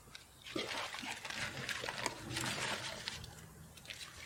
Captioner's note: bag crumpling